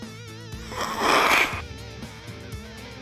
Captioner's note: snort